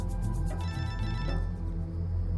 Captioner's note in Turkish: telefon çaliyor